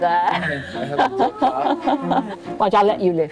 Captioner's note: all laughing